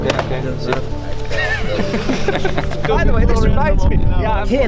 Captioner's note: laughing